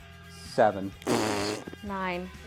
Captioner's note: fart